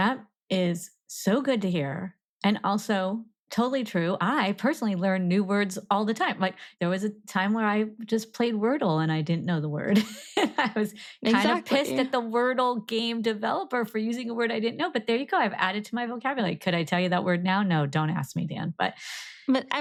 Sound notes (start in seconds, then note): 11.2 laughs